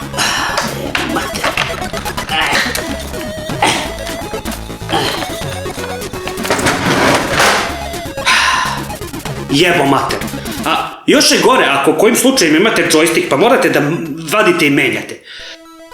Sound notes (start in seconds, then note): 0.1 grumbles, swears and moans; 8.2 sighs